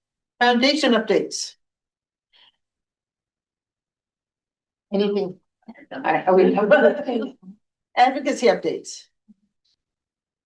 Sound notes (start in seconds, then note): 6.4 laughter